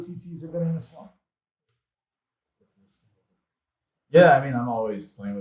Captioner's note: speaks faintly